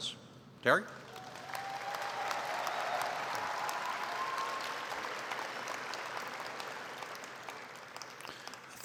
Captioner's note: applause